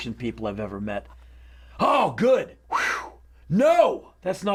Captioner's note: whistles